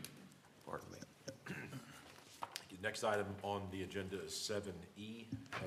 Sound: cough

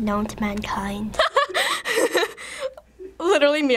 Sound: laughing

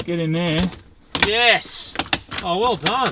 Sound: rattling

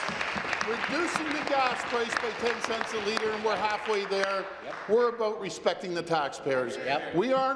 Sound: applause

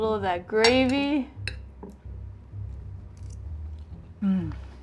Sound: cutlery clinks

